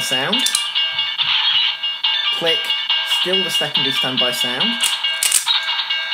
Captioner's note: electronics click